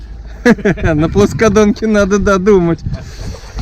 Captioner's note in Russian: смеются